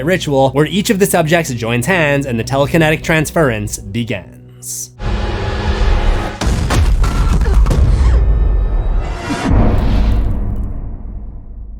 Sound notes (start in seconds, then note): 4.7 rapid thuds; 9.1 impact